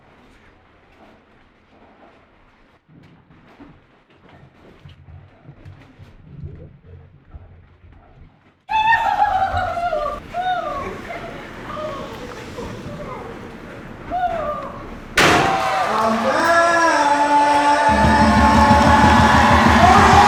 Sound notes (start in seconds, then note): 0.1 footsteps; 8.8 hooting; 14.8 stick hitting table; 20.0 cheering